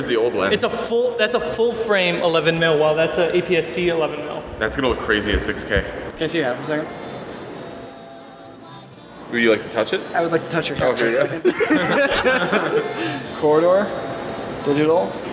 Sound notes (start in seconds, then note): 11.0 laugh; 11.3 laughs from everyone